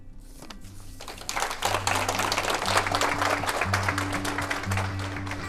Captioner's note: applause